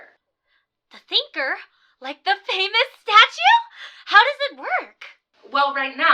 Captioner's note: on phone